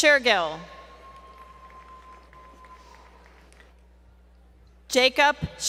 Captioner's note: applause